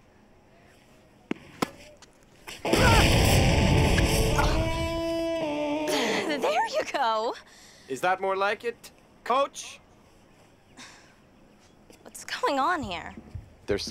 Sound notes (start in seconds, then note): 1.9 hollers; 2.7 rock music